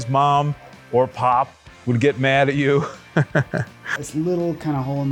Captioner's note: laughing